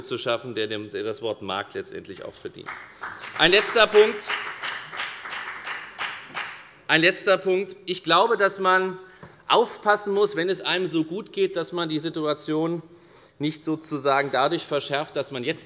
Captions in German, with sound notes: zu schaffen, der diese Bezeichnung tatsächlich auch verdient. [Beifall bei der FDP] Nächster Punkt. Ich glaube, wenn es einem so gut geht, muss man aufpassen, dass man die Situation nicht dadurch verschlechtert,